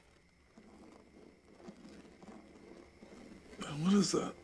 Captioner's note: scraping